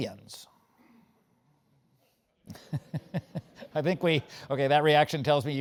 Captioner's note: laugh